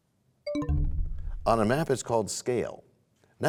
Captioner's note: bell chimes, time expires